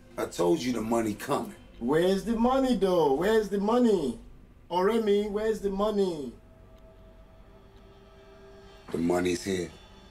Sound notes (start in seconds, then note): 4.8 speaking in Igbo